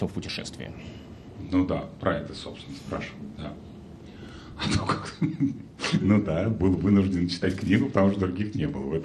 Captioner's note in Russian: смех